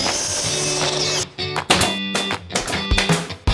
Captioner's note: upbeat music; construction sounds